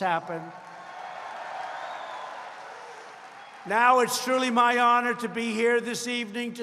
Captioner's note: applause